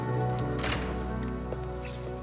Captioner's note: footstep